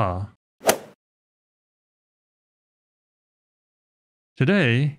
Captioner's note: golf ball hit sound effect